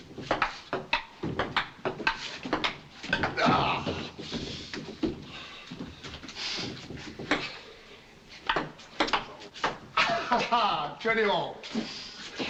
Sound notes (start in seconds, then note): 3.3 reeves groans; 9.9 chuckles